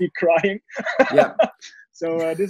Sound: laughing

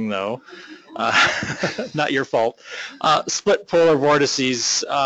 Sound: chuckle

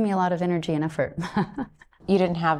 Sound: chuckling

